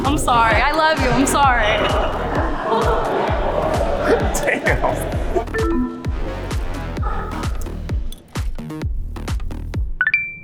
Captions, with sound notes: I'm sorry, I love you, I'm sorry. (group chattering) - (laughs) Damn. (electronics beep) (upbeat music)